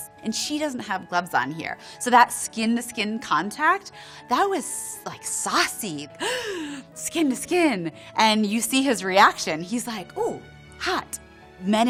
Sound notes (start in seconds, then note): 6.3 gasps